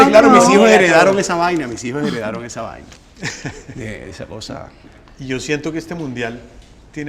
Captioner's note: laughter